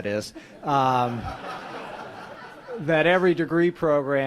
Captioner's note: laughs